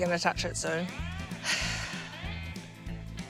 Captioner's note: sighs